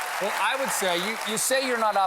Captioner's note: applause